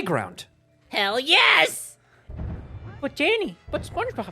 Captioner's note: Spongebob voice